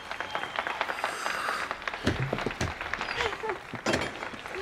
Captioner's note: audience applauding